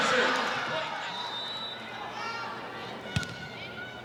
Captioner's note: whistle blowing; ball thumping